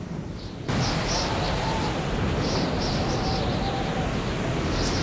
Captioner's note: wind howling